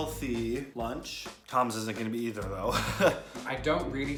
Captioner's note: laughs